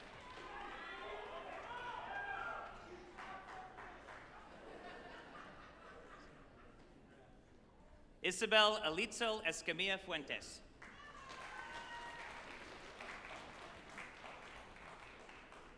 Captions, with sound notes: (shout outs and laughter from attendees) Isabel Alitzel Escamilla Fuentes, (group applauding and cheering)